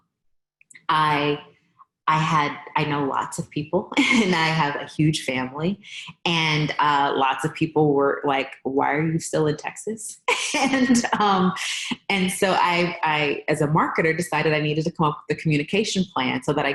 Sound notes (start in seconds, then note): 10.6 laughs